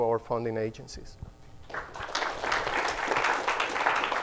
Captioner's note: applause